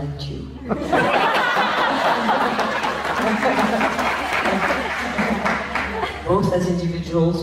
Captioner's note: laughs